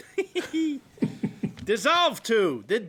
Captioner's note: chuckling